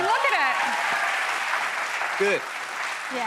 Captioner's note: cheers and applause